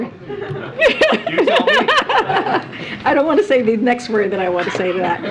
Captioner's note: laughter